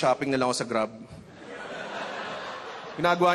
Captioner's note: laughter